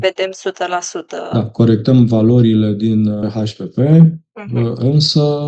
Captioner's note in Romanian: voce dreasă